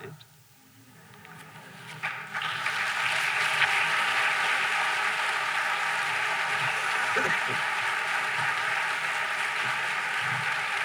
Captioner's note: applause; laughter